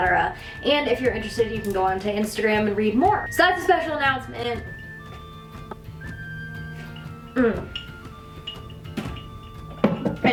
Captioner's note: sips